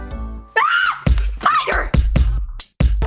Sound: screams; upbeat rhythmic music

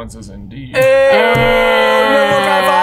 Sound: all whooping

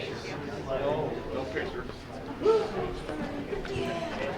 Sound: group chattering

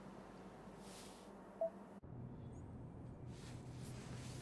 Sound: phone beeps

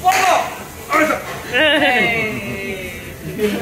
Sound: chef shouts

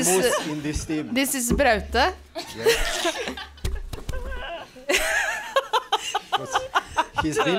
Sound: laughs

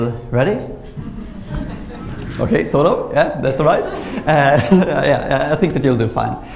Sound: nervous laughter

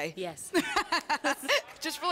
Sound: laughter

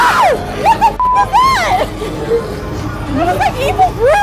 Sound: beep

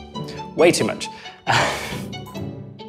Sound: laughs

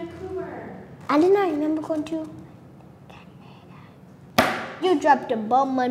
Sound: whispering; slaps table

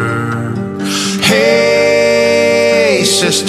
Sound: none

